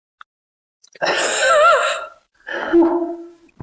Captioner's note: little laugh